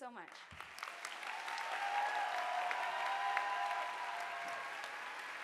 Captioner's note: audience applauding